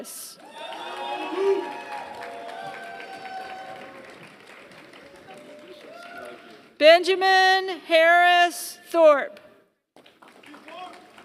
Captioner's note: applause; applause